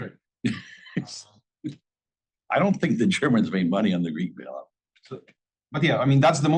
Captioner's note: laugh